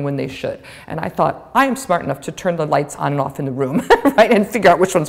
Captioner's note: chuckle